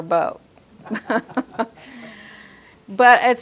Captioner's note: laughs